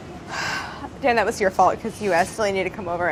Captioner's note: sighs